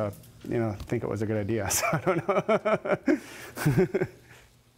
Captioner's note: laughing